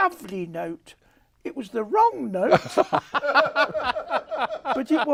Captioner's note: laughs